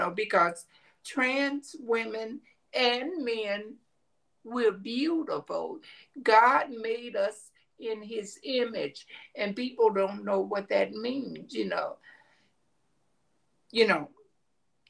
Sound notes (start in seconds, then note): none